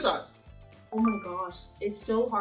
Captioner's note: notification chiming